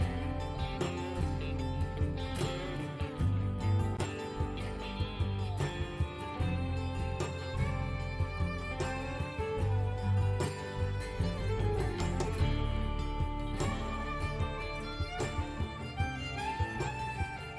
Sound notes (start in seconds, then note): none